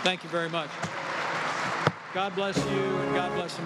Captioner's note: applause